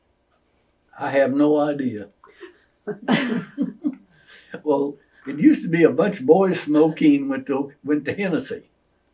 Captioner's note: laughter